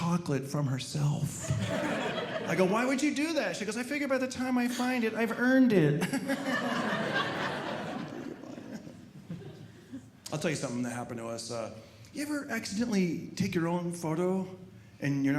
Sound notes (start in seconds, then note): 6.0 audience laughing